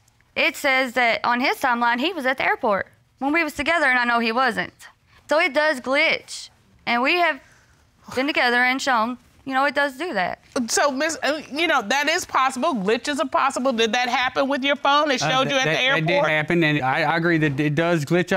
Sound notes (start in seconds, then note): none